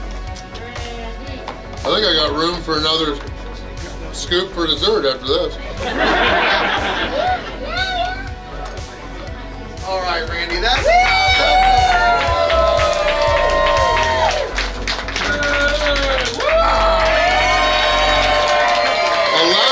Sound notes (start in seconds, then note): 5.8 hahaha; 10.4 cheering & Clapping